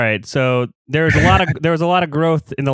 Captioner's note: laughs